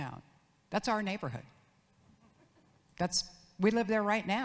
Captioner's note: audience laughs